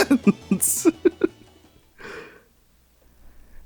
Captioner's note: giggling